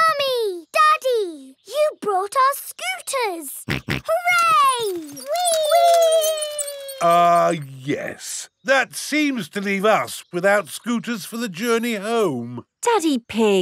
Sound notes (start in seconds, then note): 3.7 snorts